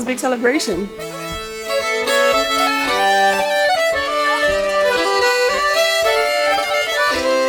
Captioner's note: upbeat traditional music; sheep bells clanging